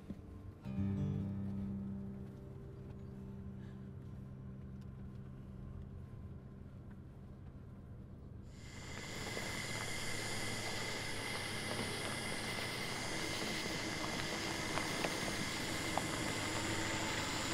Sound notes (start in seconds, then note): 0.7 gentle music; 9.2 insects chirping; 11.8 car engine revving; 14.5 insects chirping